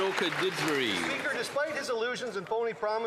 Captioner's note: some Applause